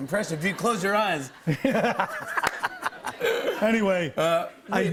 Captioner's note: laughter